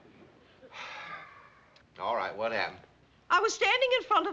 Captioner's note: sighs